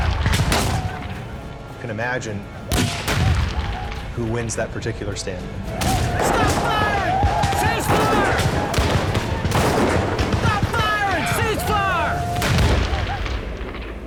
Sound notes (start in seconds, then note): 0.0 firing gunshots; 2.7 firing gunshots; 7.1 gunshots continue; 8.8 gunshots continue; 12.1 final gunshot